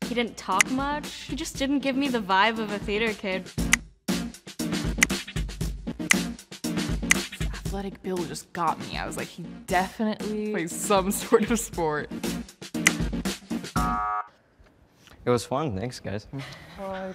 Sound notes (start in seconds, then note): 0.9 snap sound; 3.6 snap sounds; 12.8 snap sound; 12.8 alert sound